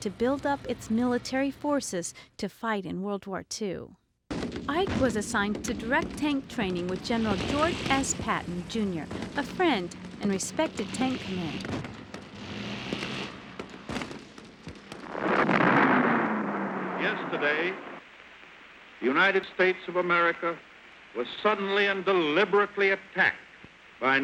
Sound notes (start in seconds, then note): 12.1 guns firing; 15.3 bombs exploding